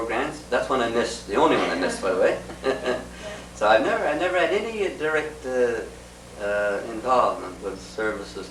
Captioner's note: laughter